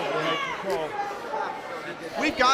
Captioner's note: crowd chatter